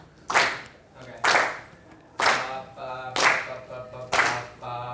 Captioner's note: voiceover